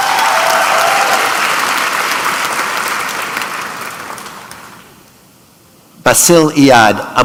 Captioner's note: applause